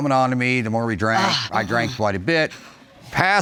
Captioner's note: grumbles